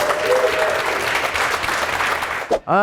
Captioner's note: applause